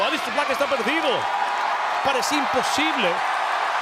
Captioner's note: crowd cheering; commentator speaking Spanish